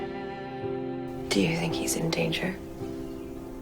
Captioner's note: voiceover